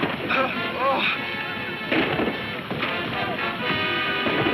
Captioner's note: man speaking in foreign language; man gasping; gun firing